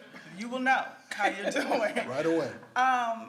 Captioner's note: laughs